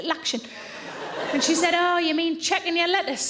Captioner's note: audience laughing